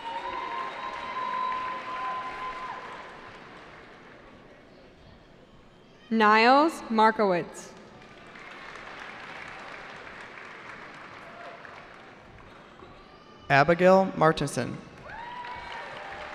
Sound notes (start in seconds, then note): 0.0 cheering; 7.8 cheering; 15.0 cheering